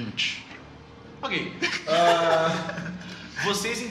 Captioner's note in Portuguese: risos